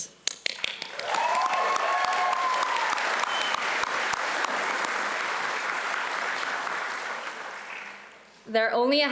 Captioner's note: audience applauds